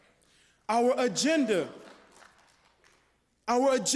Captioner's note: applause